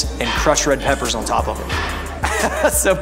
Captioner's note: laughing